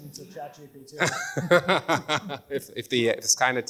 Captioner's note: laughs